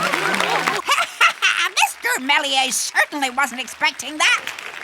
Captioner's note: laughs